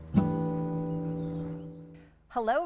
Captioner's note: guitar chord ringing; birdsong